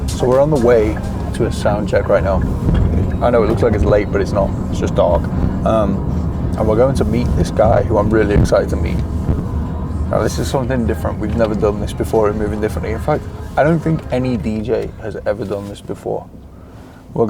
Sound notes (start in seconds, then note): none